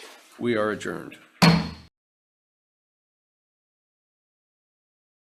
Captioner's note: gavel bangs